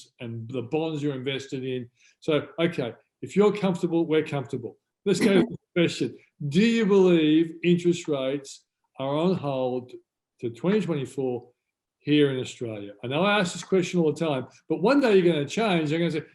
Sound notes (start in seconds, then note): 5.1 laughs